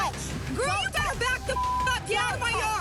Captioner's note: beep